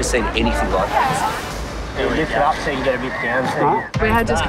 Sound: crowd chatters

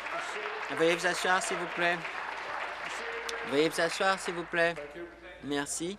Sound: applause

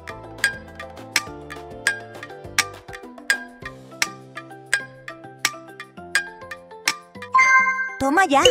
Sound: clock

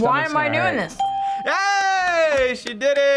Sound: bell rings

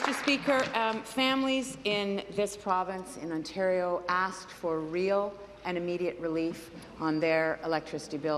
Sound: applause

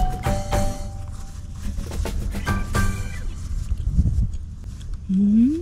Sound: sound of scratching feet

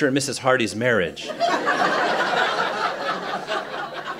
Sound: laughter

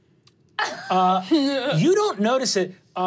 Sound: laughs

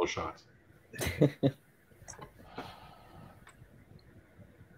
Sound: laughing

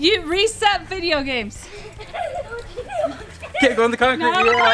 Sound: laughing

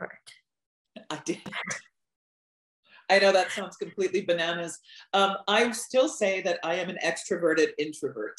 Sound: laughs

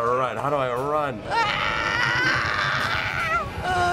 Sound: anxious groaning; tittering

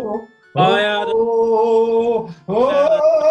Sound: wails; wailing reaches crescendo

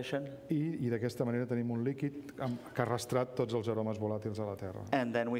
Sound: speaking catalan

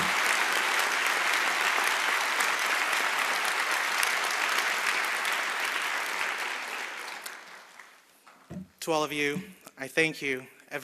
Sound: cheers and applause

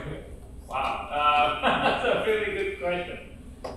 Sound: laughing

